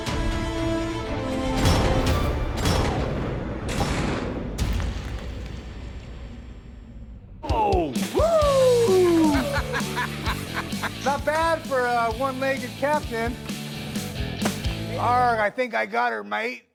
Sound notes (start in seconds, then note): 2.5 loud explosion; 8.8 laughs